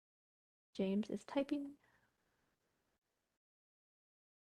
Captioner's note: pause